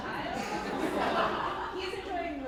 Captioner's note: laughing